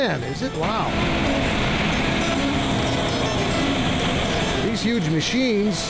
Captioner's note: machinery whirring